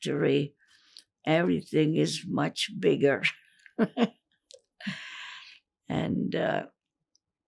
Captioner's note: laughing